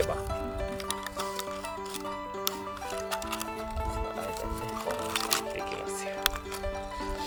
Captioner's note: laughs